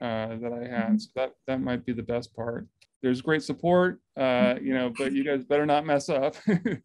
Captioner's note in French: rires